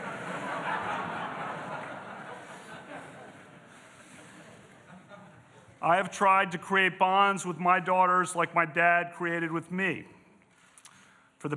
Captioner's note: laughter